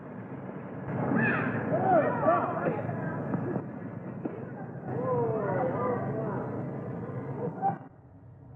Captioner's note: people chatter; birds chirp